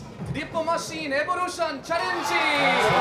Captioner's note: speaking Japanese